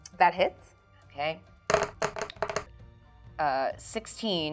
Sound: dice thudding

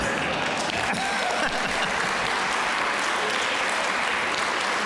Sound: audience laughs; audience applause

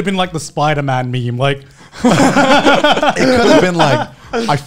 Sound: men laughing; laughs

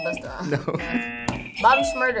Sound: laughs; buzzer rings; buzzer

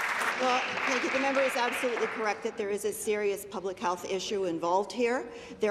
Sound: applause

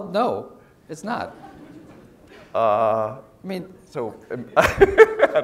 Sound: laugh; laugh

